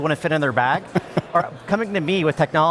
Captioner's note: laughs